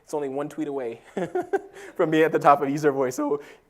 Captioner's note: laugh